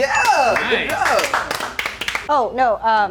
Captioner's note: movers clapping